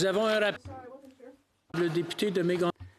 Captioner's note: speaking French